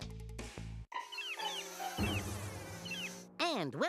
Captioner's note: flies buzzing